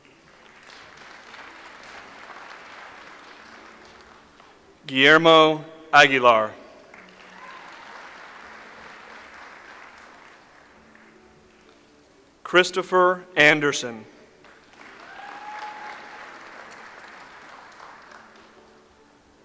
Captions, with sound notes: (audience applauds) Guillermo Aguilar. (audience applauds) Christopher Anderson. (audience applauds)